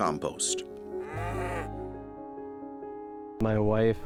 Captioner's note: cow mooing